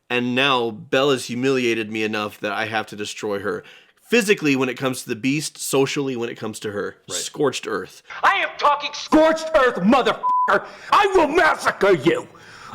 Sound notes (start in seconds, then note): 10.2 beeper